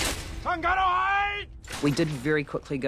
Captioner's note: shouts in elvish